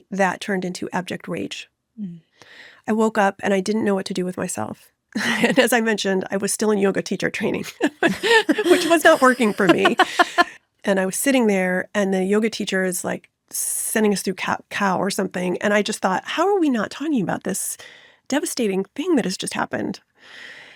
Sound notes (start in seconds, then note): 7.8 laughs